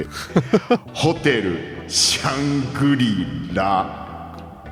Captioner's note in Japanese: 笑い